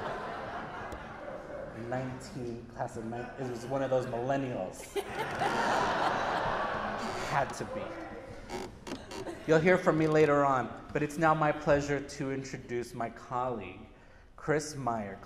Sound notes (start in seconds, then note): 9.1 laughter